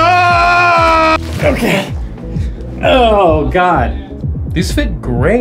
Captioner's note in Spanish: screaming; grunting